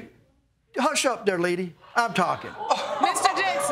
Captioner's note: audience gasp